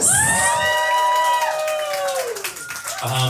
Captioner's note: applause